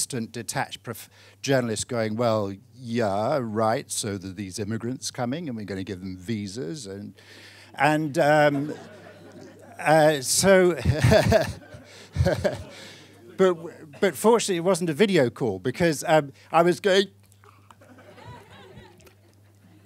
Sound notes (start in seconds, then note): 8.3 audience laughing; 10.7 laughing